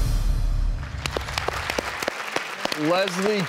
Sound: audience clapping

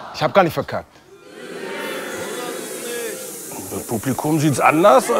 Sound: audience grumbles

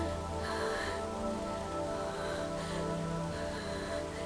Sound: sound of waterfall

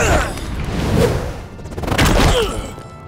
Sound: grunting

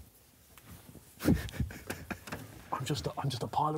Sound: man laughs

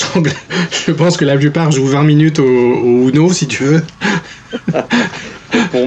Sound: laughs

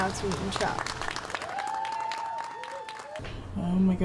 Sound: clapping & cheers

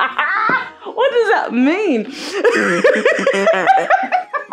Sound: laughs

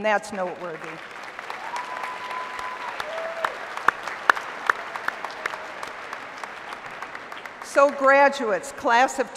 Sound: applause

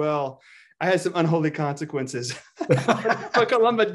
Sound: laughs

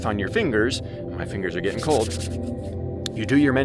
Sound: shuffling

